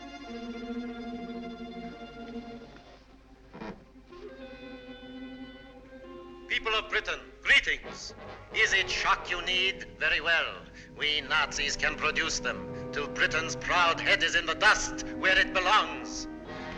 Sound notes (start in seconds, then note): 6.4 radio broadcast